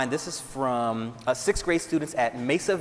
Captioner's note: none